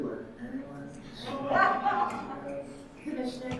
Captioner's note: audience laughing